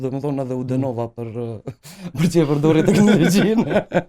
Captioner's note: laughs